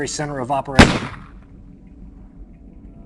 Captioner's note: bang